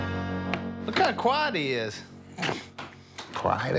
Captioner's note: scoffs